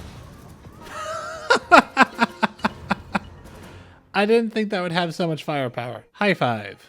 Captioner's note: laughter